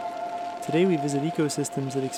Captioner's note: crackling fire & music